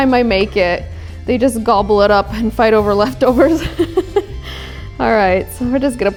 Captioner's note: chuckles